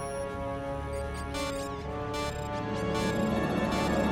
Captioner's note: computer beeping